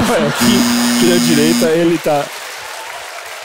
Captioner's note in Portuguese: campainha